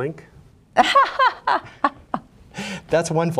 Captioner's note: laughs